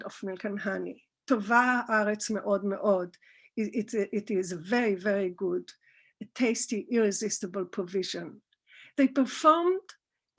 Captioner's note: Hebrew